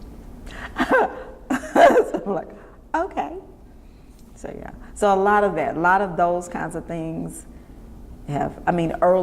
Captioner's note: laughs